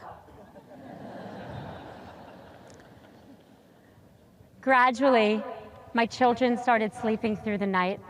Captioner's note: audience laughs